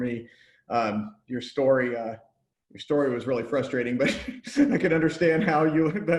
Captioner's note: chuckles